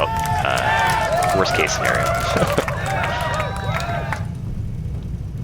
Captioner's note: laughs